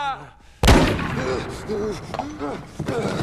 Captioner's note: gasping